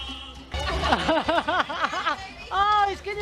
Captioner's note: laughter